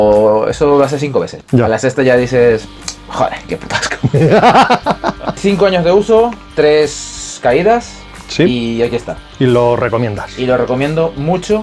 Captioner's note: laughs